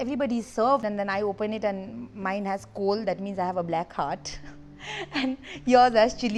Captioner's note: laughs